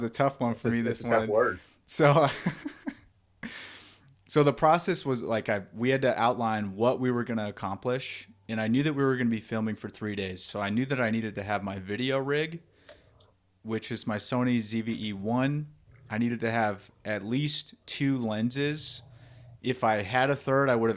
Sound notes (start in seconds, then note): 2.2 laughs